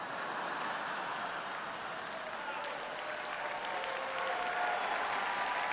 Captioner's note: audience laughs and applauds